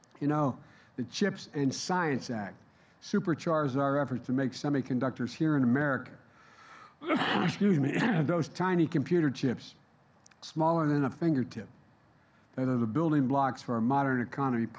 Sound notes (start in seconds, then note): 7.0 coughs